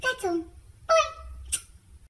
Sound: smooch

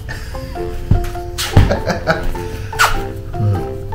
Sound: laughs

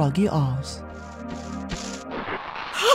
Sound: bushes rustling

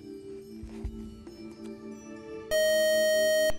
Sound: beeping

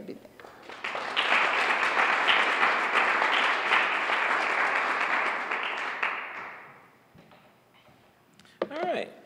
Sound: applause

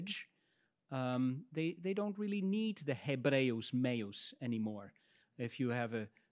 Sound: speaks in Latin

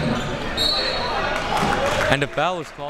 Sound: whistle tweeting

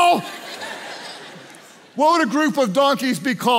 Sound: congregation laughs

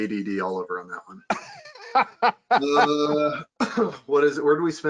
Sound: laughing

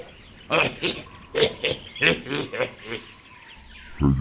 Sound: pig laugh

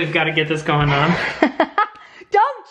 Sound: laughing

